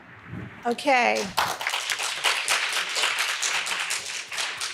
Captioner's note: audience clapping